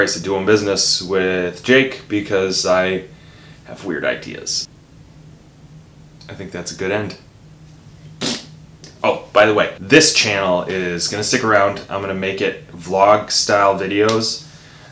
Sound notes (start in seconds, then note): 8.1 blows raspberry